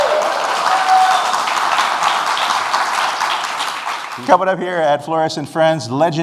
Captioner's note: applause and cheers